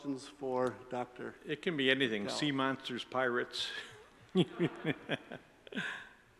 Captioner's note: laughs